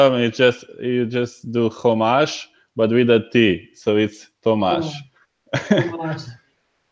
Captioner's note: laughs